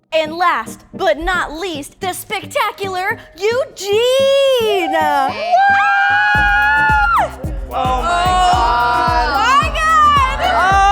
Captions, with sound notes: - And last but not least the spectacular Eugene! (audience applauds) (upbeat music) My god!